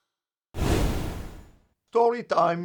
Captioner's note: woosh sound